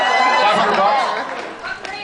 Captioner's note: scattered cheers